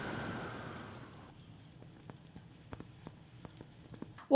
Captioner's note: sizzling